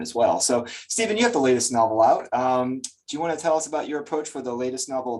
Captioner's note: lip smack